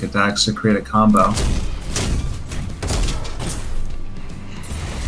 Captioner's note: explosive game effects